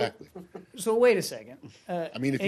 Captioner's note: laughter